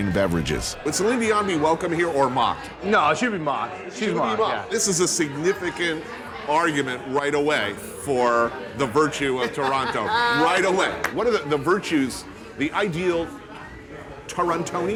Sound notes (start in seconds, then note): 7.5 laughs